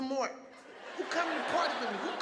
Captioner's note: audience laughing